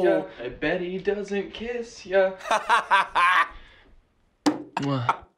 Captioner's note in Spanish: ríe